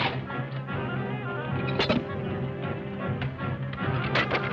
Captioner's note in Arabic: صوت قعقعة الإبريق